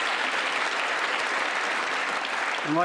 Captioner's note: applause